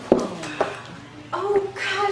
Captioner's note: gasping